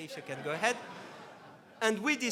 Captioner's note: laughs